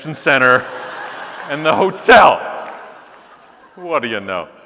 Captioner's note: audience laughing